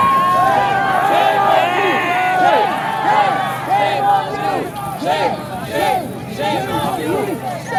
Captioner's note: chanting continues